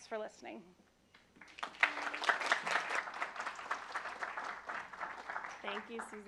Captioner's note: applause